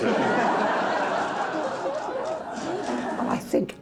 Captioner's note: audience laughs